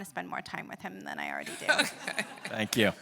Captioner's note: laughs